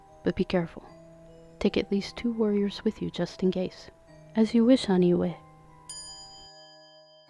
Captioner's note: small chime